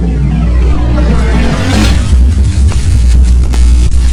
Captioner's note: electricity zapping